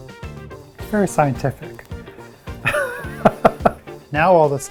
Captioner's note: laughing